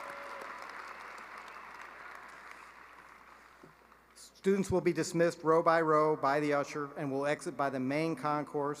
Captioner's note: cheering and applause